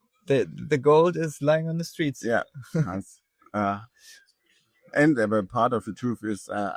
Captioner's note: laughs